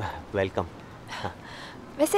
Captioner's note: Sighs